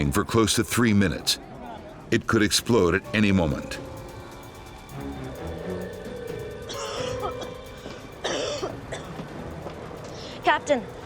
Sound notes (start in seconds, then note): 8.2 coughing